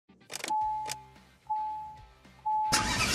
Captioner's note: bell chiming; engine revs up; vigorous rock music